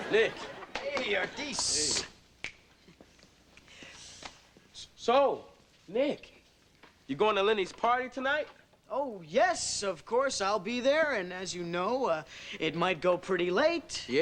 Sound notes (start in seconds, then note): 2.4 fingers snap